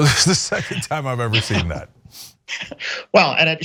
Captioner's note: laugh